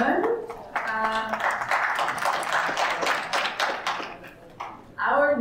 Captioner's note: audience applauding